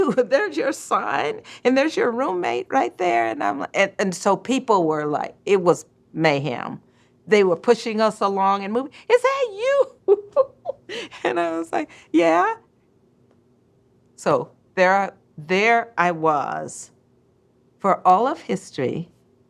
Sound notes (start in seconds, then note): 9.9 laughs